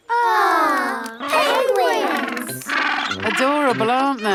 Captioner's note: penguins chatter